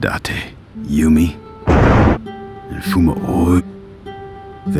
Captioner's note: convenient thunder